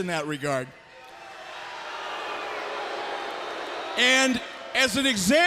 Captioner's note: crowd chatter